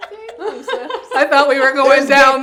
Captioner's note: all laughing